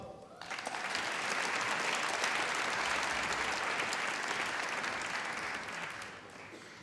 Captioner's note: applause